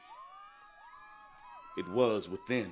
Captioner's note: children cheering